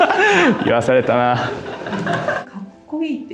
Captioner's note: laughs